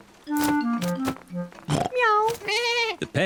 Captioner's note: all makes animal sounds